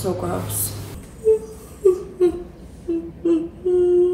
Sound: yawning

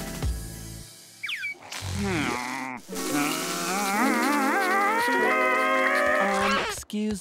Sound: groaning

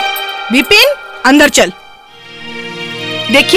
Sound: none

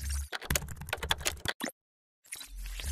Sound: typing

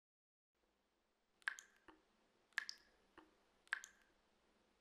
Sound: water dripping

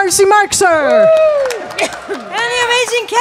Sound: audience clapping

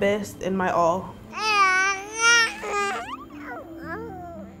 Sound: baby cooing

